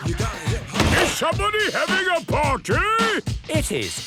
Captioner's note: shouts